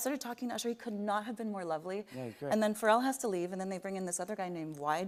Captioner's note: none